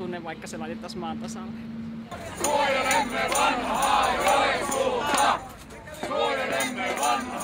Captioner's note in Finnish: Aplodeja